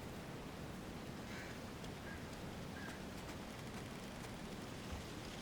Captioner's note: crows cawing continues; footsteps tapping